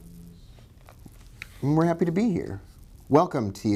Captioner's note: normal speak